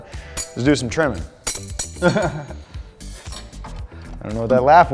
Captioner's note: laughs